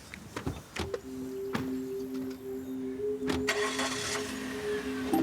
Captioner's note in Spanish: ruido del motor